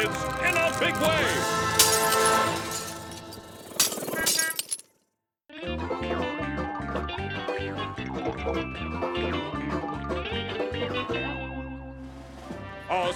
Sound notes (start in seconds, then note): 4.0 glass shattering; 5.6 campy music